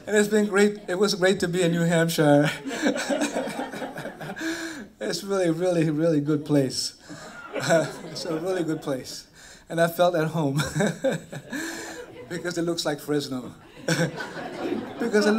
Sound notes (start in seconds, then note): 2.4 laughter